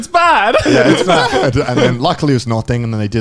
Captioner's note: laughing